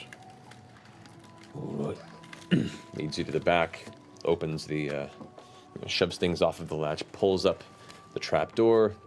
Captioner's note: grunts